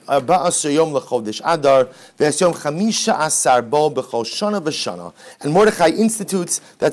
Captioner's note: Hebrew